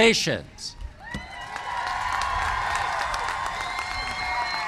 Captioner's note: cheers and applause